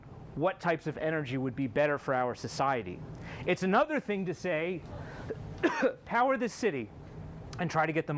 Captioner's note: coughs